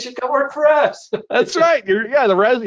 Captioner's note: laughs